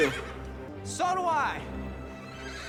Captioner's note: neigh